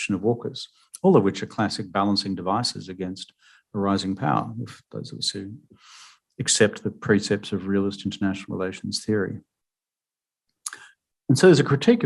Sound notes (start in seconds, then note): 5.4 speaking mandarin